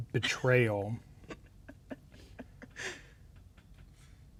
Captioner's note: laughing